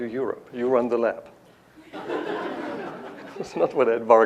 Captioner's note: laughter